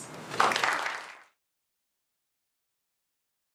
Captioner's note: applause